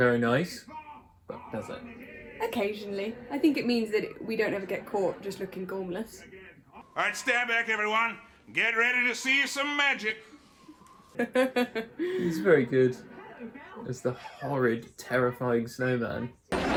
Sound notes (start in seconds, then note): 11.1 laughs